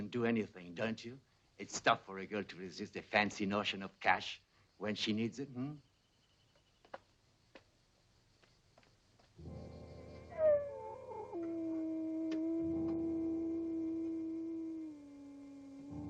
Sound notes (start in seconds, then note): 9.4 light dramatic music; 9.4 wolf howling